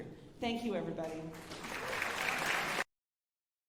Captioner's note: alumni applauding